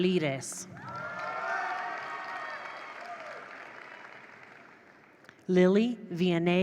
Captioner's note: attendees cheer; attendees applaud